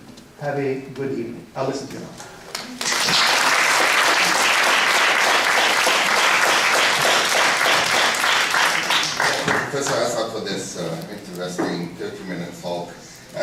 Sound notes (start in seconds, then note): 2.5 applause